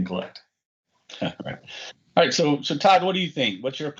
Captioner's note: chuckles